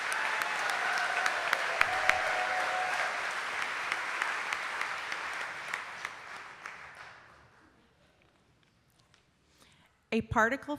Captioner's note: laughing